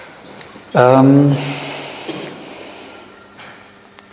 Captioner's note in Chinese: 叹气